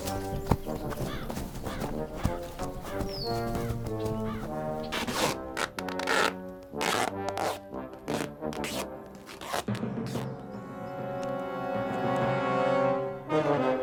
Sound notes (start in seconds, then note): 5.1 tape ripping